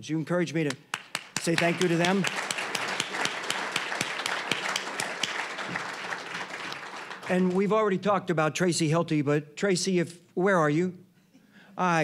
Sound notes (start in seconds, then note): 2.7 applause